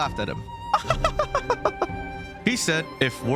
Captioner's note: garbage attempt at a feminine laugh